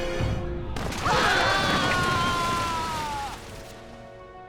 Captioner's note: screaming